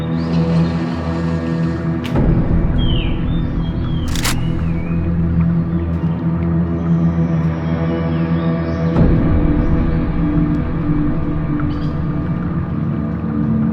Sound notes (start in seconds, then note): 0.4 door sliding; 4.0 lock clicking